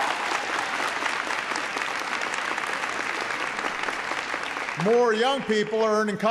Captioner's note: applause